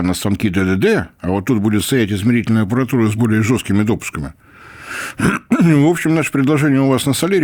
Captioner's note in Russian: откашливается